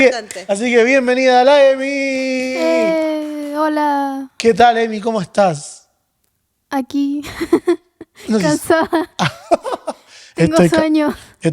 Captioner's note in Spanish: risas